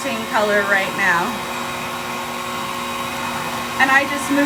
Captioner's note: hair dryer whirs continues